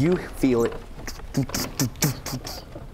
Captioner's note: dododoDOdodo